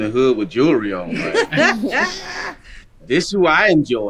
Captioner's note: group laughing